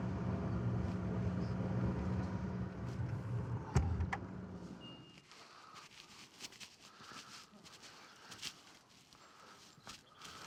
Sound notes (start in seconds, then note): 0.0 engine rumbling; 7.1 footsteps rustling